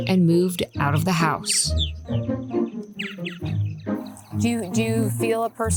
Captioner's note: birds chirping